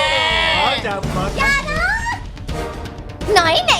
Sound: screams

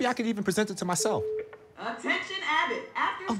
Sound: intercom beeps

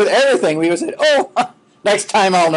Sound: laughing

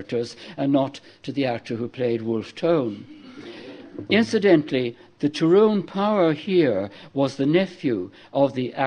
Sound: laughter

